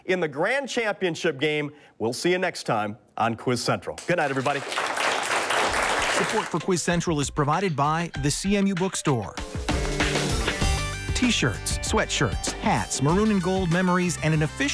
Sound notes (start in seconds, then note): 4.0 applause; 6.4 voiceover; 9.8 upbeat music